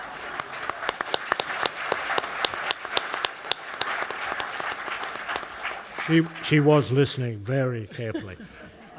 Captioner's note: applause